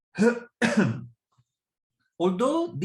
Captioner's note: coughs